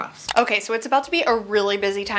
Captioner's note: mouse clicking